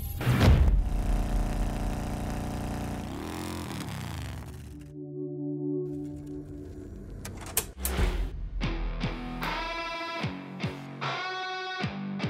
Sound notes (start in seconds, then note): 0.7 motor revving; 7.7 intense rock music